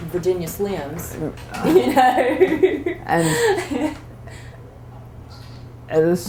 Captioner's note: laughter